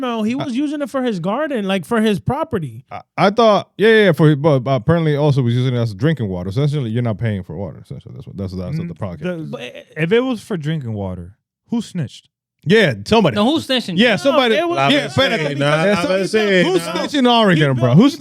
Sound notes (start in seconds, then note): 15.9 speaking In Foreign Language